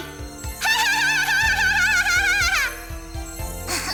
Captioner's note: laugh; clears throat